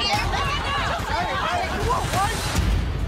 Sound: shouting

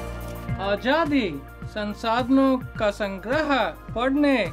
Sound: speaking in Hindi

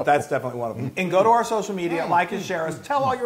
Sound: laugh

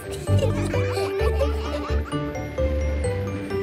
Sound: children laughing

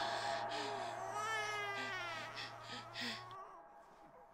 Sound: baby crying

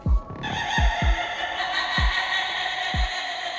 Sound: cackling

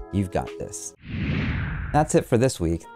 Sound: whoosh interlude

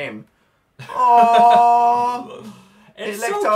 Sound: laughs

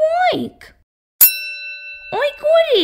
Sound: ding!

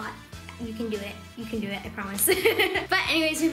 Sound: laughs

